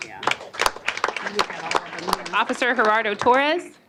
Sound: applause

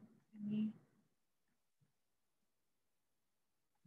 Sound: silence

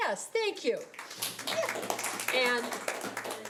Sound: audience clapping

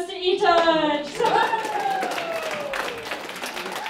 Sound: applause

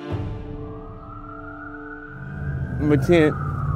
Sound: sirens blaring

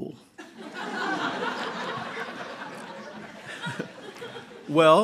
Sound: laughter

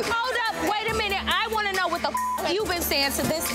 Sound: beep

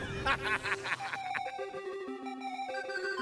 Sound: laughing; chiming

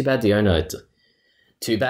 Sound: breathing in

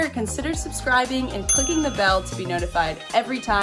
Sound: bell ringing

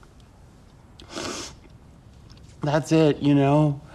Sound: sniffles

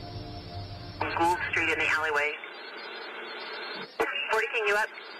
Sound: police radio chatter

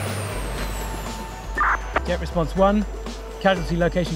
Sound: radio Beep

